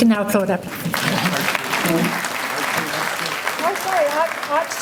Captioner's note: applause